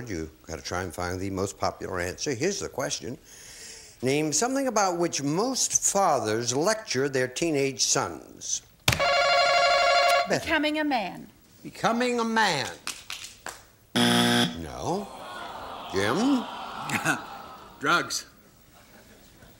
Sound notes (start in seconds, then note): 9.0 bell; 13.9 buzzer